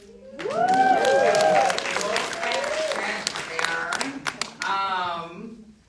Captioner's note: audience applauding